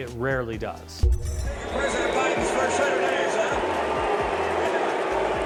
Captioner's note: crowd booing